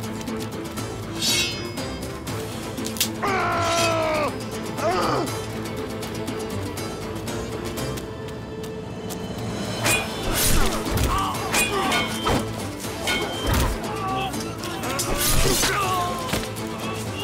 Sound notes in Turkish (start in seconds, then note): 4.3 Subutay bağırıyor; 9.3 Aksiyon müziği